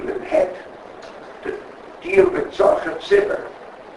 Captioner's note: Yiddish